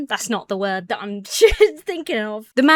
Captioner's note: chuckles